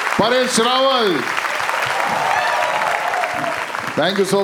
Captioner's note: crowd applauding